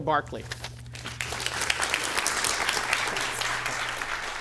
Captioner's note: applause